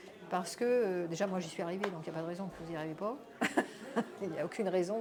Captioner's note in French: rires